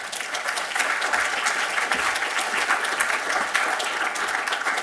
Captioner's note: applause